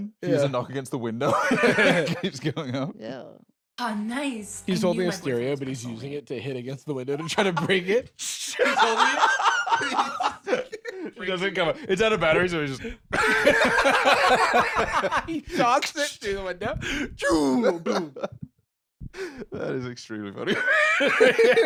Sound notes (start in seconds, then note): 8.5 both laughing; 13.1 both laughing; 20.4 laughing